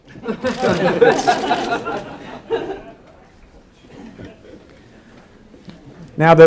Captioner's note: laughing